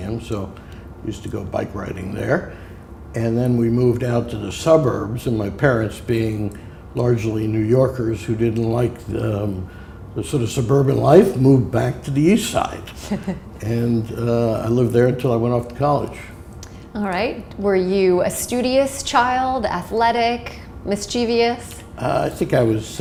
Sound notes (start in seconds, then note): 12.9 chuckle